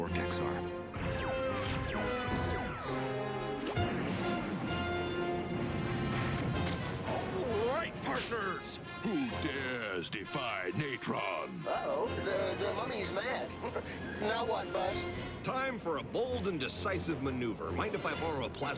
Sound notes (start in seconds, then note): 13.3 laughs nervously